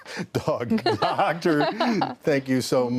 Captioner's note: laughter